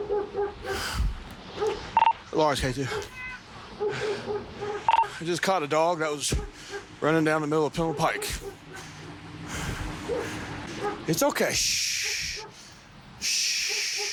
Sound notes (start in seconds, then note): 0.0 Sorbon barking; 4.2 breathing heavily; 4.8 radio beeping